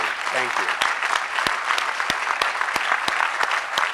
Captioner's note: crowd applause